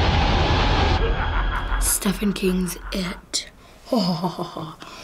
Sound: Pennywise laughs sinisterly

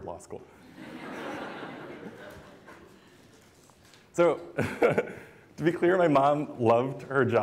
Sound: laughter

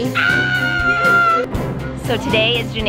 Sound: yells

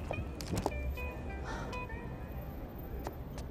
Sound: Eloise sighing

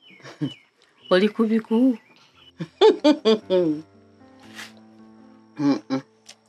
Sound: chuckles

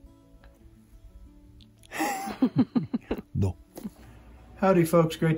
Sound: laughters

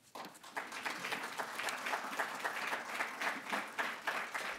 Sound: applause

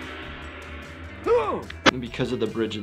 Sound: groans

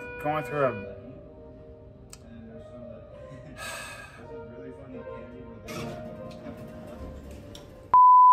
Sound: elevator door opens

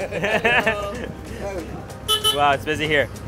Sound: laughing

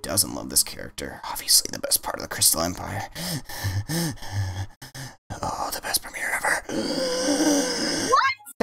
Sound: heavy breathing; breathing intensifies

